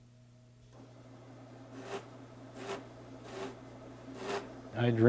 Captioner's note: sanding